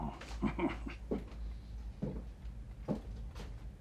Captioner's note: chuckles